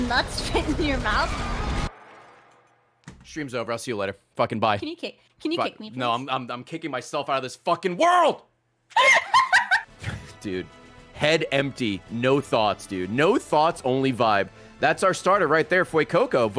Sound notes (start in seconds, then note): 8.9 laughs